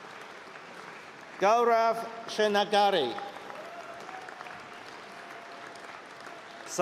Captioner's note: applause and cheering